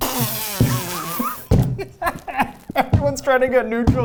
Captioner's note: laughs